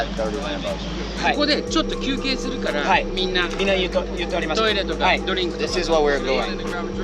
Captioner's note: Speaking Japanese